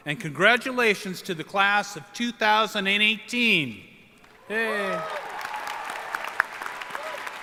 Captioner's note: applause